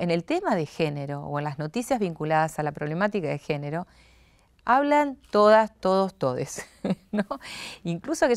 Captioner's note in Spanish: risas